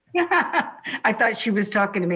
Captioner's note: laughs